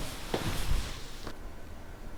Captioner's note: footsteps